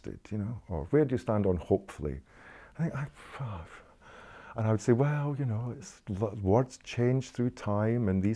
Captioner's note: sigh